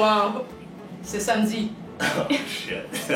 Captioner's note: in french